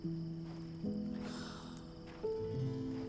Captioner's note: Clive sighs